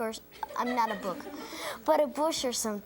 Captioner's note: audience laughs